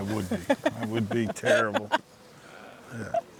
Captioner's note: laughing